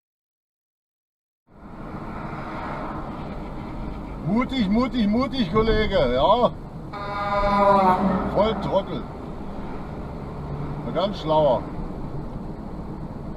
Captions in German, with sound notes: Mutig, mutig, mutig, Kollege, ja! (Entgegenkommender LKW hupt) Volltrottel! Ein ganz Schlauer!